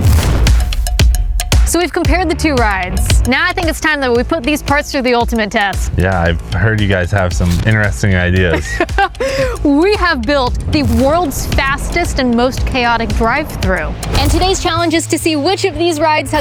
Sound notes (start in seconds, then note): 0.1 upbeat music; 8.4 laughs